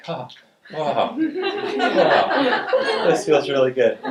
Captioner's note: audience laughing